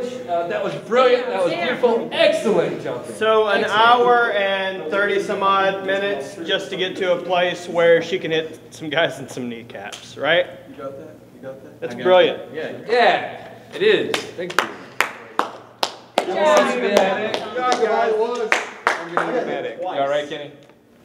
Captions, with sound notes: that was brilliant, that was beautiful, excellent. Good job there. - So an hour and 30 some odd minutes, just to get to a place where she can hit some guys in some kneecaps, right? - You got that, you got that? - It's brilliant. - Yeah, it is, thank you. (clapping) - I'm gonna need a medic. - You all right, Kenny?